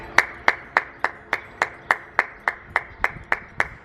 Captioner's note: clapping